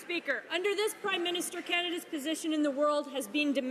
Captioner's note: some applause